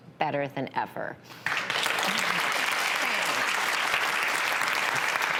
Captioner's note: audience applauds